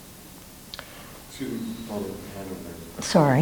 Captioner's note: man speaks off mic